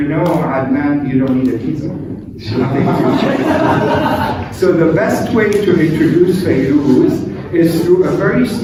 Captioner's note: laughter